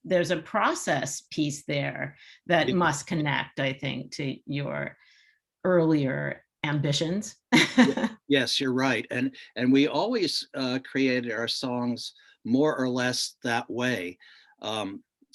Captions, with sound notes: there's a process piece there that must connect, I think, to your earlier ambitions. (chuckles) - Yes, you're right. And we always created our songs more or less that way.